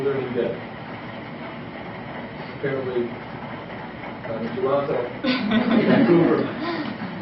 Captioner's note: laughter